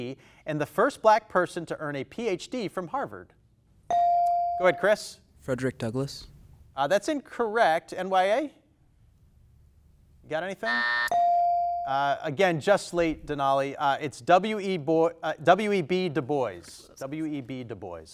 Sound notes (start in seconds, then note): 3.9 buzzer dings; 10.7 buzzer dings; 10.7 timer buzzes